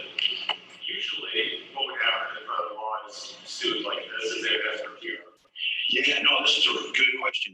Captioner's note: away from the mic